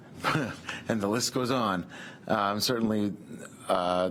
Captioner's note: laughs